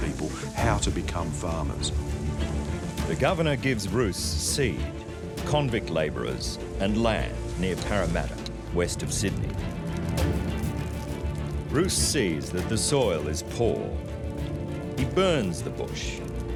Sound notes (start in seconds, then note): 9.7 torch crackling